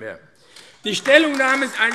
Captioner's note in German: Beifall AfD